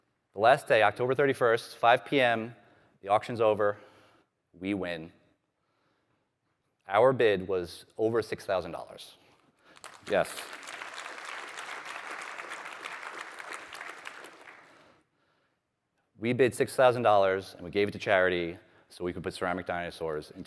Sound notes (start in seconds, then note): 9.6 applause